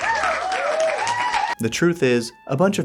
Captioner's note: applause